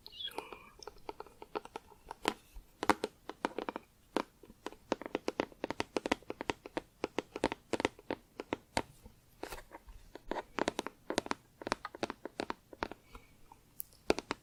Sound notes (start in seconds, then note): 2.8 tapping on plastic